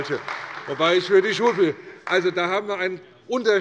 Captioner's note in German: Beifall bei Abgeordneten der CDU